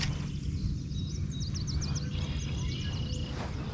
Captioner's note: birds chirping